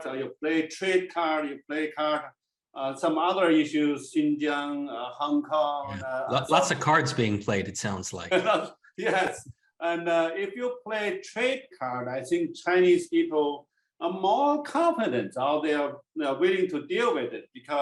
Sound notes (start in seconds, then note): 8.2 chuckles